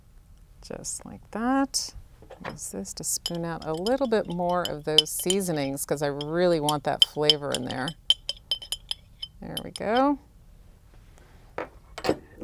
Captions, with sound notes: Just like that, use this to spoon out a little bit more of those seasonings because I really want that flavor in there. (clanking) There we go.